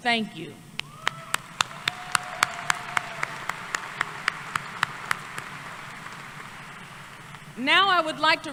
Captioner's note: applause